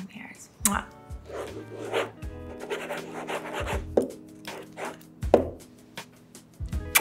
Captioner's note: pen scratching